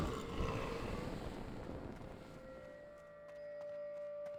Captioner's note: roaring